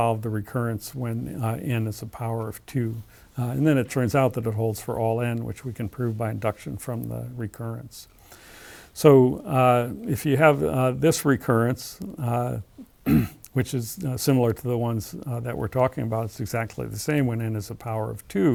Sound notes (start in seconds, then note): 13.0 cough